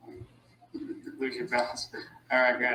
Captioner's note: laughing